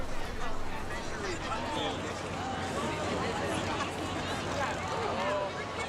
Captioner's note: chatter